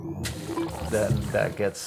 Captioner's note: digitized noises